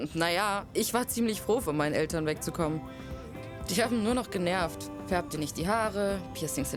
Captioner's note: none